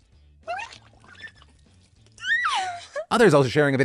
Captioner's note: hollers